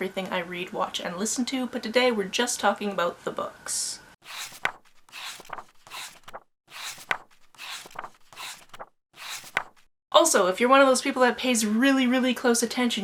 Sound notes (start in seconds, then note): 4.3 pages turning